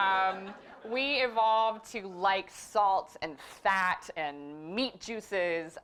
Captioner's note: laugh